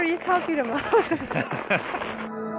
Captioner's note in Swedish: Skratt